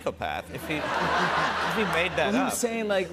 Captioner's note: laughter